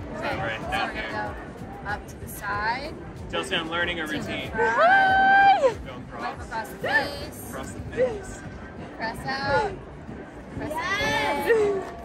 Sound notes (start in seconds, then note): 4.7 woman cheers